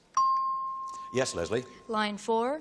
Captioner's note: chimes